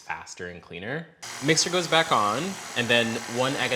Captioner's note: mixer whirring